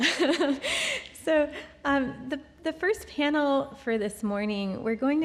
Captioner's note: chuckles